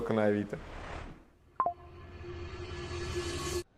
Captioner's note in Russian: Звук уведомления